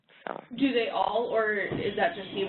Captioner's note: voiceover